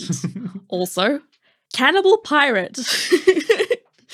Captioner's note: laughing